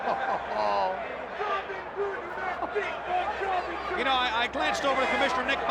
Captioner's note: crowd chatter